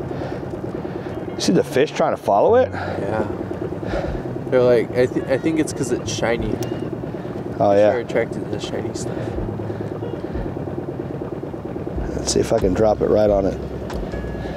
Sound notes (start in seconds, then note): 9.7 engine droning; 9.7 upbeat music continues